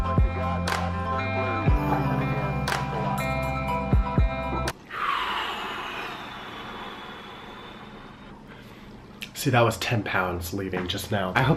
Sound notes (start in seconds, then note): 4.9 exhales loudly